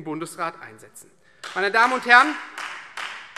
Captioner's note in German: Beifall Freie Demokraten